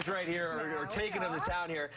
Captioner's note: applause